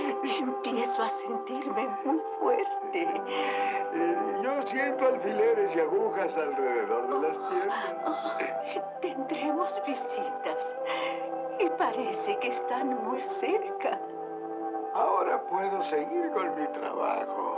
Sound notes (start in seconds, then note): none